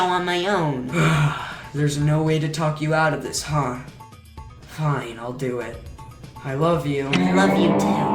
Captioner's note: sigh